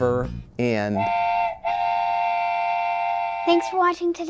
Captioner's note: train horn blowing